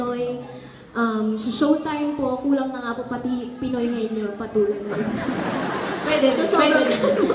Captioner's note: laugh